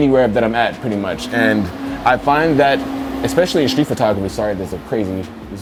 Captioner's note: loud truck in the background